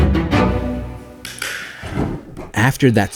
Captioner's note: tapping